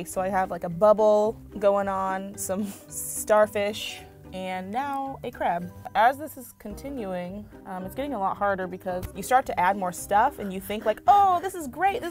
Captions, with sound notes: so I have, like, a bubble going on, some (giggle) starfish, and now, a crab. As this is continuing, um, it's getting a lot harder because you start to add more stuff, and you think, "oh this is great!